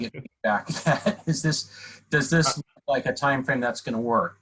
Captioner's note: laughter